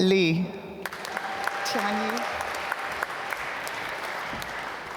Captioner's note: applause